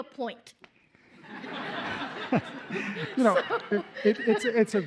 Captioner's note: laughter